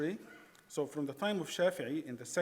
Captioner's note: speaking in foreign language